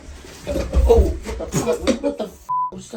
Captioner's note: beep